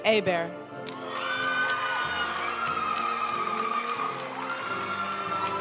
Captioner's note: audience cheering and applauding; graduation music